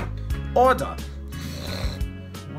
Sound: growls

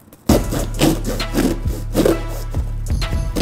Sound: knife sawing

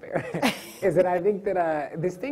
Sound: laughs

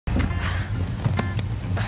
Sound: breathing heavily

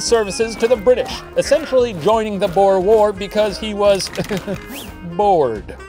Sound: laughs

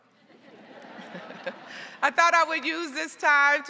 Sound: crowd laughing

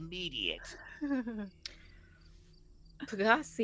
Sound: bluejay laughs

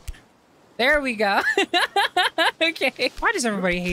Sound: laughter

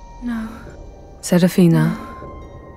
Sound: coldly

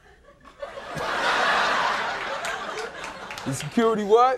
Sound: audience laughing

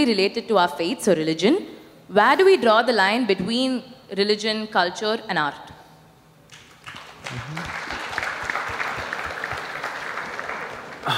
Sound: applause

